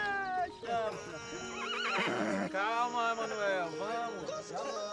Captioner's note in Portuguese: relinchando